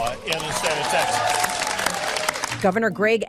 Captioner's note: onlookers applauding